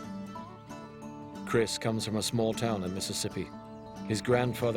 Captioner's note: voiceover